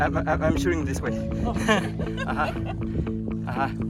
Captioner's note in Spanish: Laugh